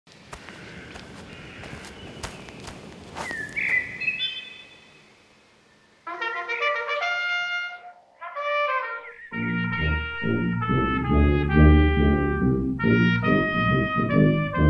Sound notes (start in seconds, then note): 3.2 birds chirping; 8.1 tuba playing